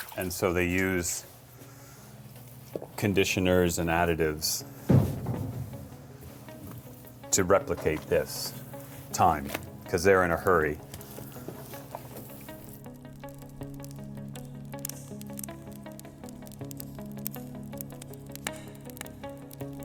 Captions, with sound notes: and so they use conditioners and additives to replicate this, time, 'cause they're in a hurry. (light music) (fire crackling)